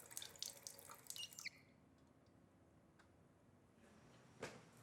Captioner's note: faucet creaking